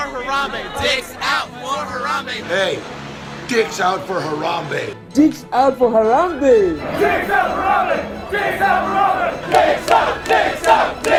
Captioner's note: crowd voices